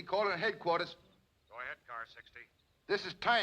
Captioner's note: man over police radio